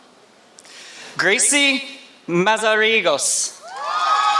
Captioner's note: applause